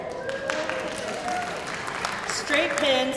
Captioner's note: crowd applauding